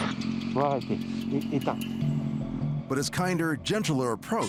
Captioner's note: speaks in foreign language